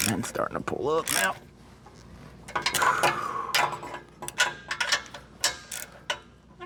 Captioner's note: metal Clanking